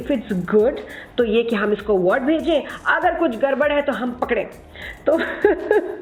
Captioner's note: laugh